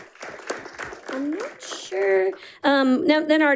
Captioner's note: audience applauding